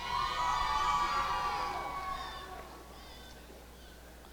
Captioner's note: applause and cheering